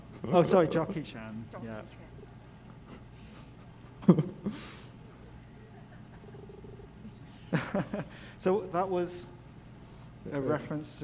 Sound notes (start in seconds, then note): 6.3 text beeping